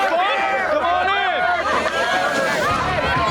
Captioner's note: cheers; rock music